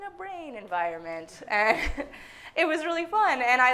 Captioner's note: everyone laughing